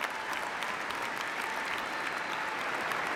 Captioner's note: applause